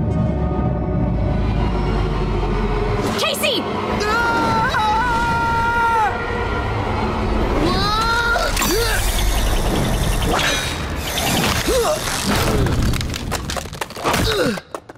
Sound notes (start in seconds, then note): 4.0 screaming; 10.7 grunting